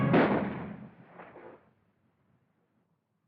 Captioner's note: gunshot